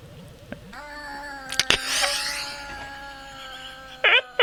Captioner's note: comical "aaaaah" sound effect; laughs a lot